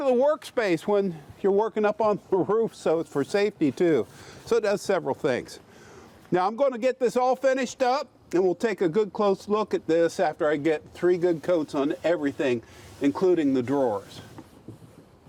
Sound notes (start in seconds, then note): none